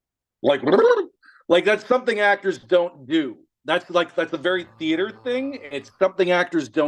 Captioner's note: gurgling sounds